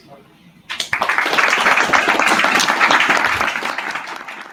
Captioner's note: applause